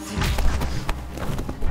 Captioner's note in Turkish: Vurma sesi